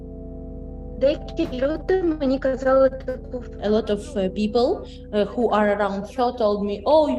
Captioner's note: speaking Ukrainian